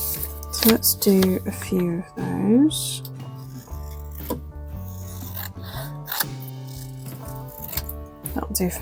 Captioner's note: scissors cutting paper